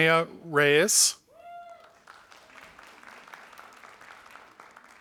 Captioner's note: audience applauding